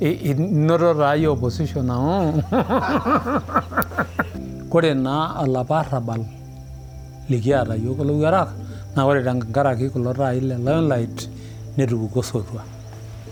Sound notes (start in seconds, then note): 2.0 people laugh; 5.0 speaking in foreign language